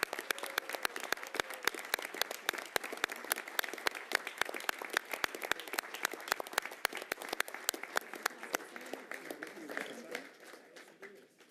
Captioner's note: applause